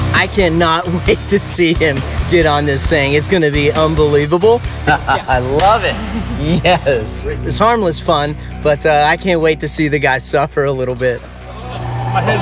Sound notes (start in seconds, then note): 4.8 laughs